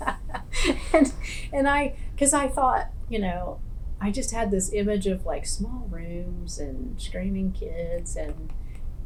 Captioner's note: laughs